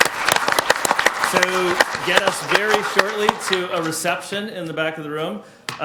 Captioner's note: people applauding